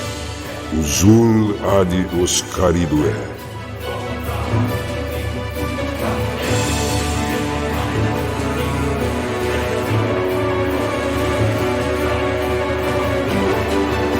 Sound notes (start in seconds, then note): 2.5 speaking foreign language